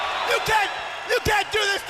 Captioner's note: crowd cheering